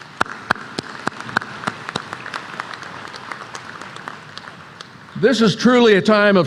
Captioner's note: applause